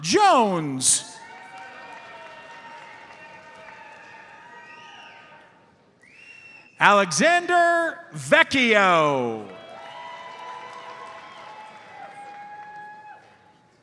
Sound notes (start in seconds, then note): 1.2 audience cheers and applauds; 1.2 audience member whistles; 8.8 audience cheers and applauds